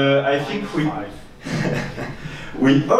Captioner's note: laughs